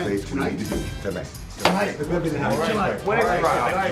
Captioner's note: crowd chatter